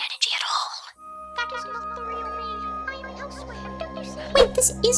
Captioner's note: over intercom